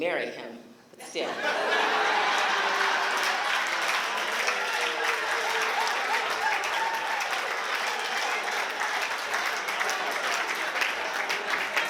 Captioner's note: laughter